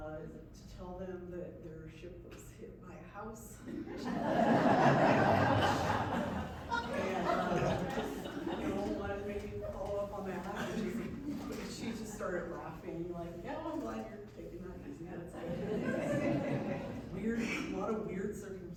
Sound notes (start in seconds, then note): 3.6 laughter